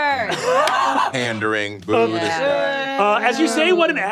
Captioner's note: players booing